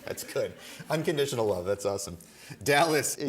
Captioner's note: laughing